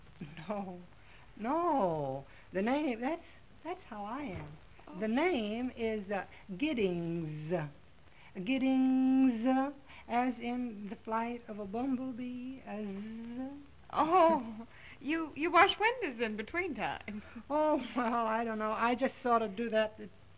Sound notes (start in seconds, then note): 14.1 chuckles